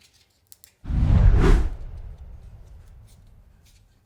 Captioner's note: text whooshing